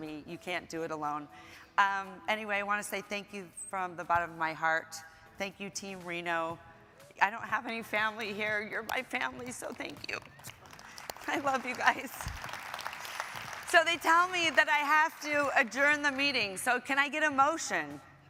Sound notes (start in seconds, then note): 12.3 audience applauding